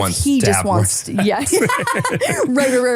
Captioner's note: laughs